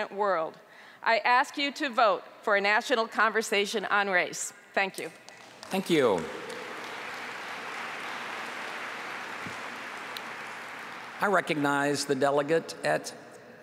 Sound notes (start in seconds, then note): 8.2 applause